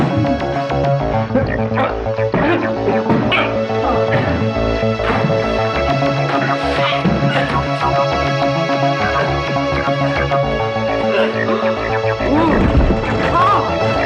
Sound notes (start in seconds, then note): 1.2 groaning; 2.3 smacking; 7.3 ominous sci-fi music